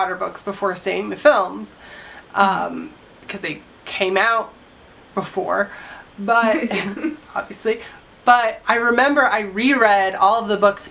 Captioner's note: laughter